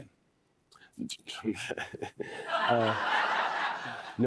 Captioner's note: laughs